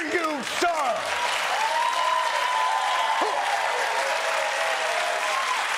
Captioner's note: cheering